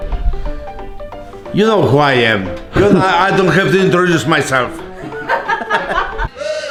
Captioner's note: laughter